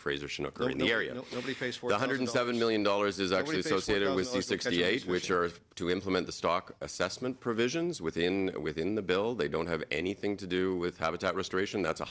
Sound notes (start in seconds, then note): 5.9 mixed voices